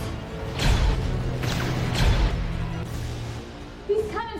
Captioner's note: laser blasts